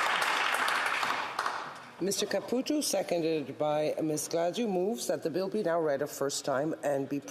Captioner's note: applause